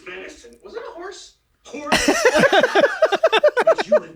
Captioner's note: they laugh